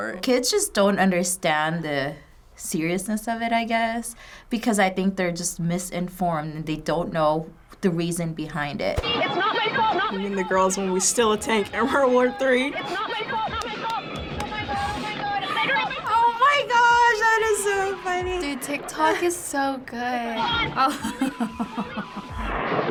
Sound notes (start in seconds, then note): 12.7 chuckles; 20.7 chuckles